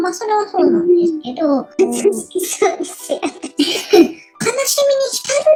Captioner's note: laughs